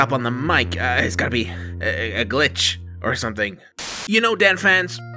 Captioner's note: static